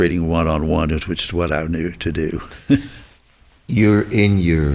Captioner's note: chuckles